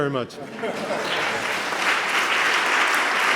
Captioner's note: laughter; applause